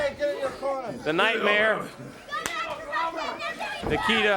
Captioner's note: crowd chatter